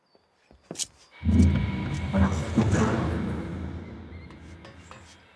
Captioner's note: loud explosion